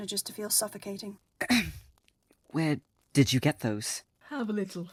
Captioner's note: Remus clears his throat